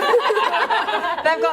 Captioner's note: laughter